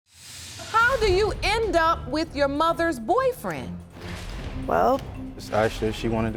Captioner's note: none